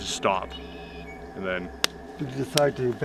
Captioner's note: clapping hands rhythmically